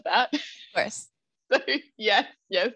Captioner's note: both laugh